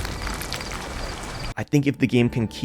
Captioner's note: whale explosion